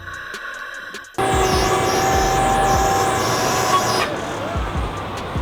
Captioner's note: winch engine whirs